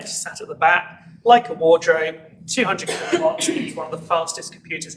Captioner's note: cough obscures voice